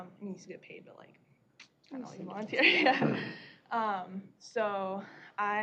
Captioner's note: laughter